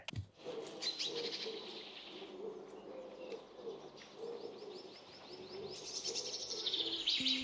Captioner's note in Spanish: trino de pájaros